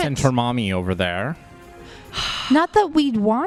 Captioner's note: sighs